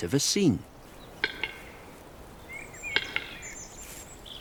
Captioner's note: bird makes clicking sound